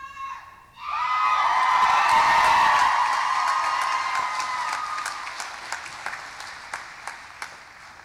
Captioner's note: cheering